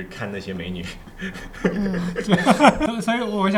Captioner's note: laughter